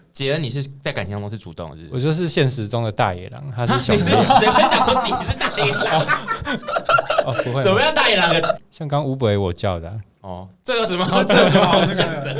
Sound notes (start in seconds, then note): 5.7 hahaha